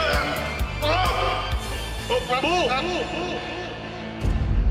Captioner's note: screams